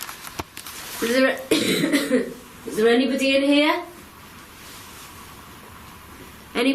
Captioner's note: coughing